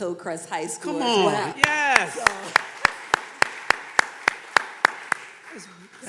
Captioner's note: everyone clapping